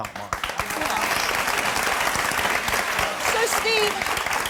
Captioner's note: applause